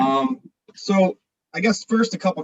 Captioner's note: chuckles